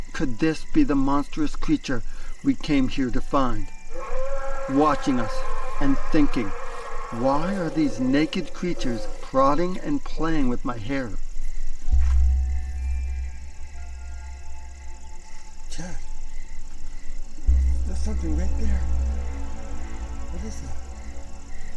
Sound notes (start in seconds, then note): 5.2 skunk ape roaring; 12.1 mysterious music